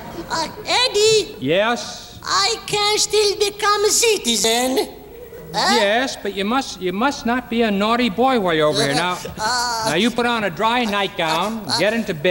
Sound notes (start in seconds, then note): 8.6 gigio groaning